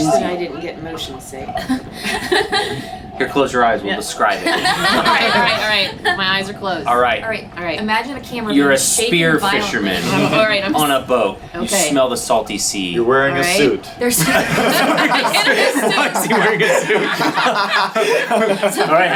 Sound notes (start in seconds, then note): 4.3 all laugh; 14.1 all laugh; 18.2 laughing